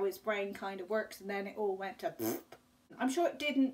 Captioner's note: raspberry noise